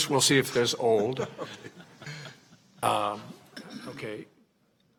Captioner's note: regents chuckle